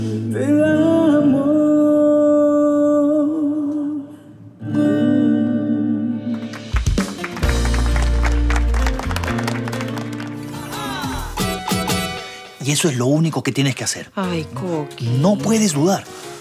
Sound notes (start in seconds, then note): 6.3 applause